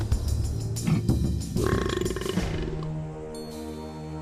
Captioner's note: burps